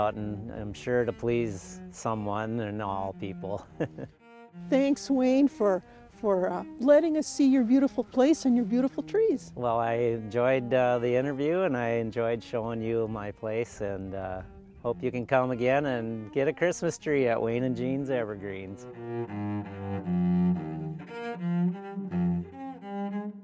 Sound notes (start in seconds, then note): 3.5 chuckling; 19.5 gentle instrumental music